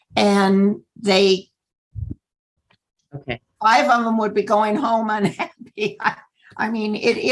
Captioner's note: laughter